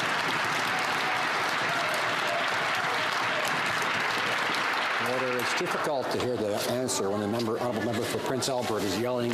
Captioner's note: some Applause